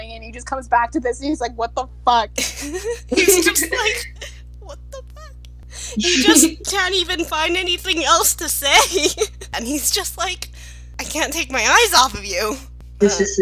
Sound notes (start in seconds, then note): 3.9 tiny voice